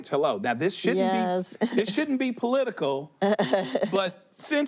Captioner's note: laughs